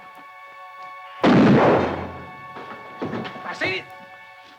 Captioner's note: bucket rattles; gun fires